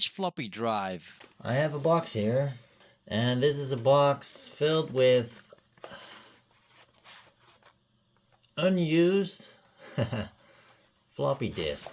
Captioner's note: chuckles